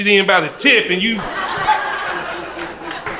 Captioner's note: crowd laughter